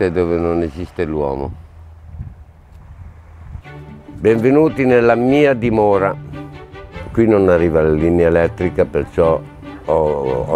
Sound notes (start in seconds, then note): 3.6 upbeat music; 5.1 speaks in foreign language